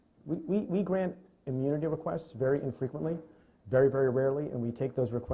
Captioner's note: stutters